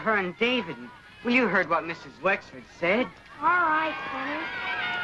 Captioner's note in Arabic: الأطفال يهتفون